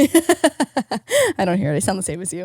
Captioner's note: laughing